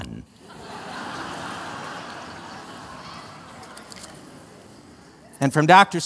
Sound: laughter

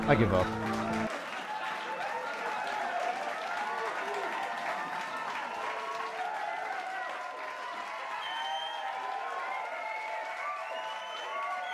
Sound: crowd cheering and clapping

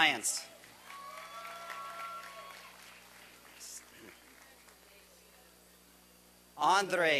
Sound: applause and cheering

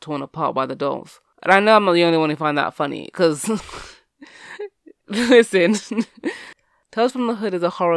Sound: laughs

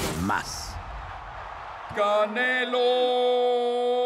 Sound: multitud ruge

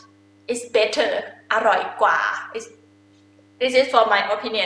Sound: talking in foreign language

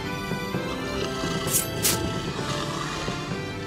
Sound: snarl

